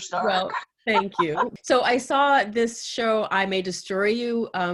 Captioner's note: laughs